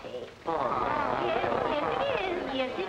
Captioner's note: party-goers groaning